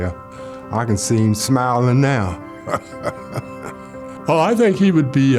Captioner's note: laughs